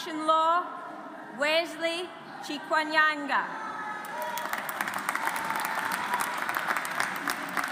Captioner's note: audience applauds